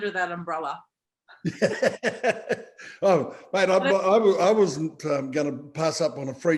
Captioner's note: laughing